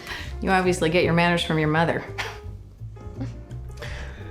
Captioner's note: chuckles